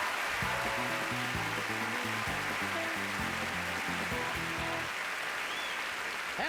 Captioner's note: applause